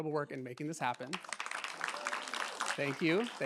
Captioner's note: applause